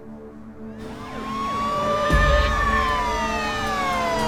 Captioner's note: sirens blaring